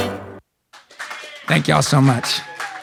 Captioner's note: audience claps